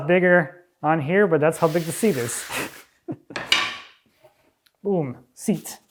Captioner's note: chuckles